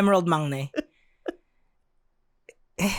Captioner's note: giggles